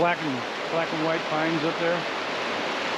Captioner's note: water flowing